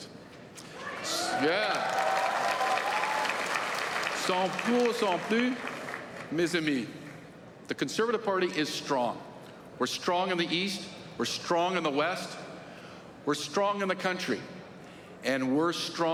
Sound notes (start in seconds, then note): 0.0 applause; 4.4 applause; 7.3 speaking French